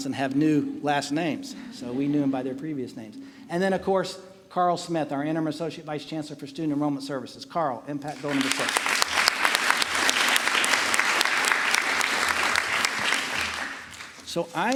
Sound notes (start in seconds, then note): 8.0 applause